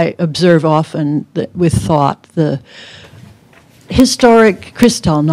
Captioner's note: none